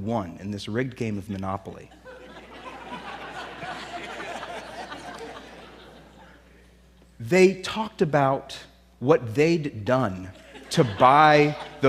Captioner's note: laughter